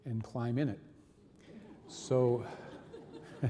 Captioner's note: audience laughing; reverend laughing